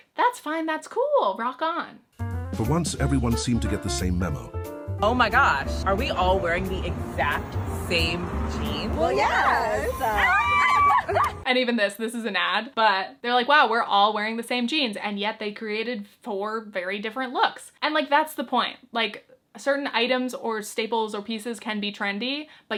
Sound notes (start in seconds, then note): 8.8 group cheering